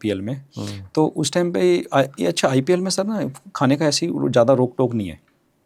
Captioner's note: nasal voice